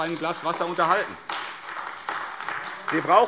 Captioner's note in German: Beifall AfD